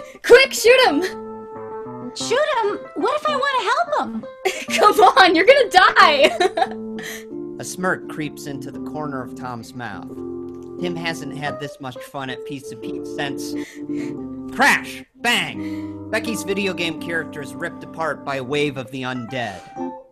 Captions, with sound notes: - Quick, shoot 'em! - Shoot them? What if I wanna help them? - Come on, you're gonna die! (laughs) - A smirk creeps into the corner of Tom's mouth. Tim hasn't had this much fun at Pizza Pete's since... Crash. Bang. Becky's video game character is ripped apart by a wave of the undead.